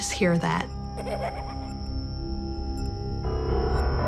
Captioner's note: child laughing